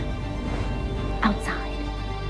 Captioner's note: voiceover; whispering